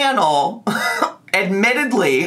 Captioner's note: laughs